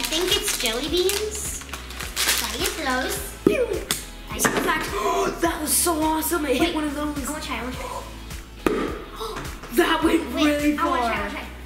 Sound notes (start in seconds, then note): 8.6 pop